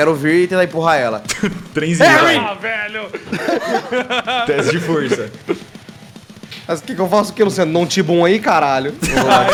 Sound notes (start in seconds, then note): 3.1 laughs